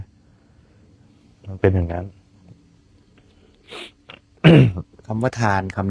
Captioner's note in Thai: เสียงสูดหายใจ